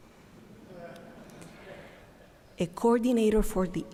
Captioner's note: audience laughing